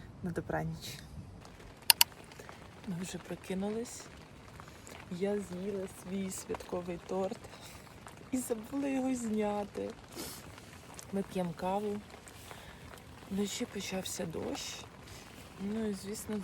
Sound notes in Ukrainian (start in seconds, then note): 10.1 сопіння